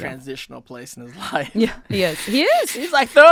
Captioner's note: chuckling